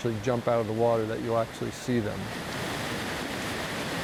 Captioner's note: water rushing